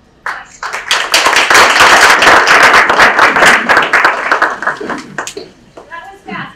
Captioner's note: audience clapping